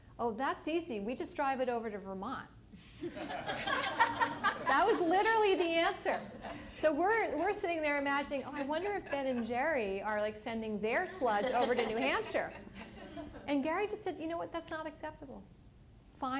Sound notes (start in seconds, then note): 2.8 laughter